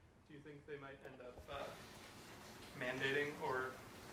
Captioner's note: voiceover